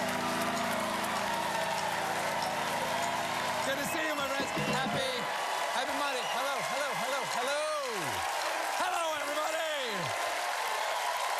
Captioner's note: cheers and applause